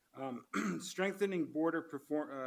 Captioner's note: clears throat